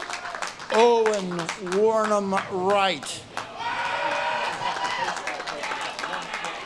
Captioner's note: audience claps and cheers